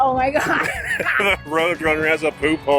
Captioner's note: laughing